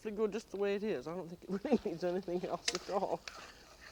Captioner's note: laughing